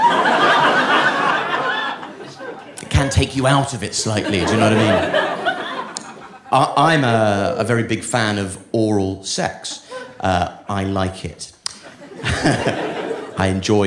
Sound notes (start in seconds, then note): 0.0 audience laughing; 11.8 chuckles